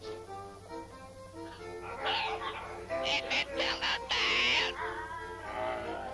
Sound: parrot squawking

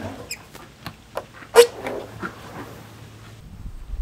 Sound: wood cracking; wood sliding

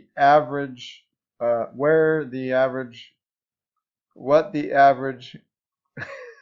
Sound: confused laughing

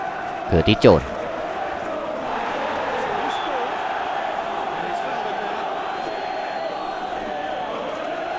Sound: applause

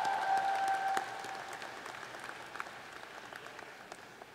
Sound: applause

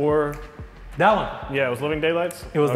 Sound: snaps fingers

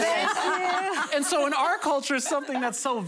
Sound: laughter

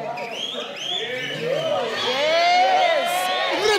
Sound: laughs; whistles

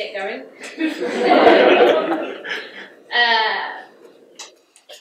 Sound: audience laughs

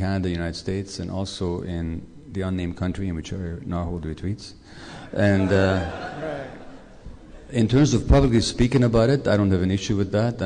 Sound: laughter

